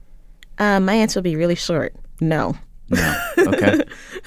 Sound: laughs

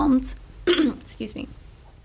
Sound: clearing throat

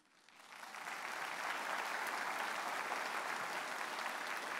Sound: audience applauds

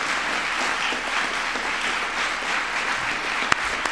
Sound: applause

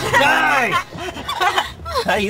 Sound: laughing

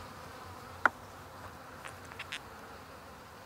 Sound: humming, birds chirping

